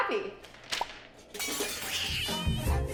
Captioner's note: crash sound effect